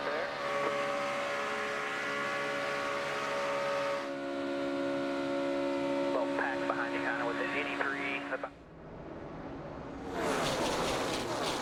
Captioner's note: engines roar